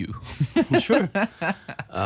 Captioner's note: laughs